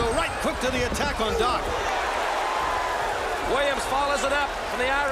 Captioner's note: crowd cheering